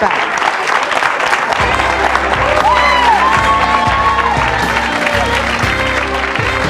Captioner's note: audience applauding; upbeat music